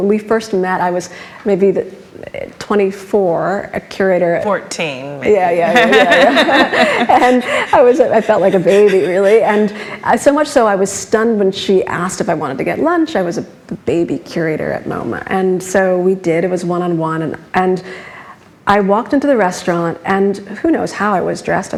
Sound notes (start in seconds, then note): 5.5 laughs